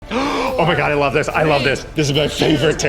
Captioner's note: gasps